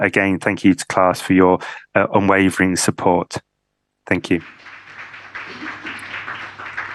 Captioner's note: applause